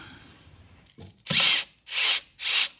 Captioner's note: drilling noises